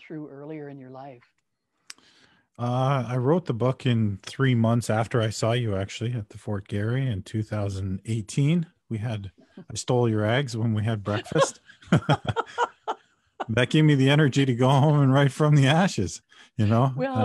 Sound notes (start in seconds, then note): 11.7 laughing